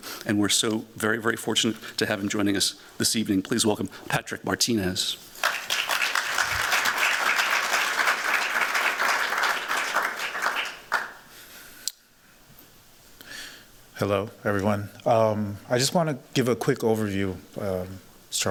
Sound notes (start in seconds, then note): 5.3 applause